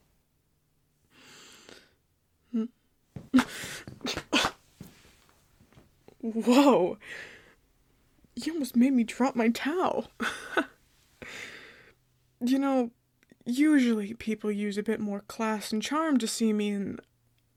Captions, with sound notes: Hm? [Foot steps followed by sounds of physical contact and defense.] Woah... You almost made me drop my towel, hah. Yanno... Usually people use a bit more class and charm to see me in...